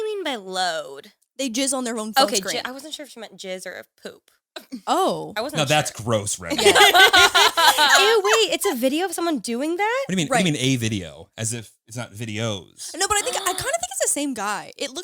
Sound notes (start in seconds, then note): 6.4 all laughing